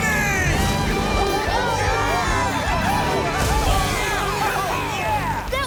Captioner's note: cheering